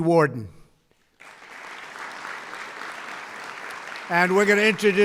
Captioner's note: applause